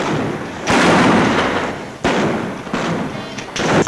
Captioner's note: guns bang